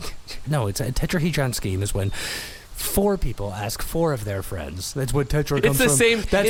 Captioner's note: mockingly